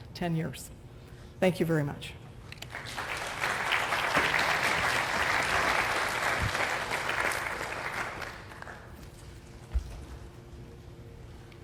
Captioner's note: applause